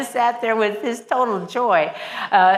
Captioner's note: laughs